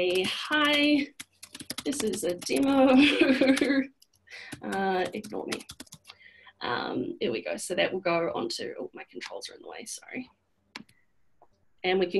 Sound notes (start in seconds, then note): 3.0 laughs